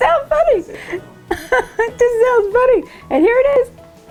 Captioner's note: laughing